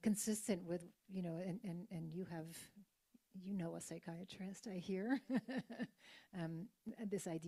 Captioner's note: laughs